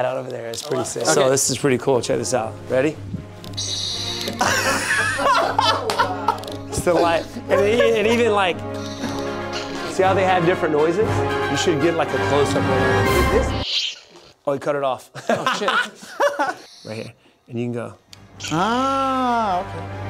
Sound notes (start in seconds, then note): 4.1 laughing loudly